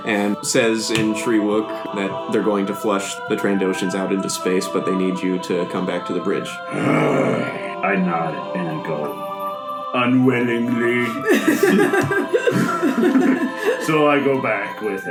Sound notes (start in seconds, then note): 6.6 annoyed growl